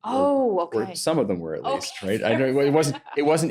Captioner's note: laughs